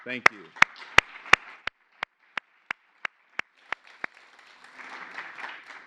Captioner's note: applause